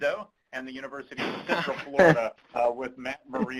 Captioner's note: laughs